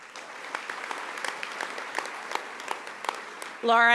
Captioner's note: audience applauding